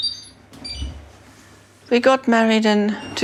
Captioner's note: washing machine beeps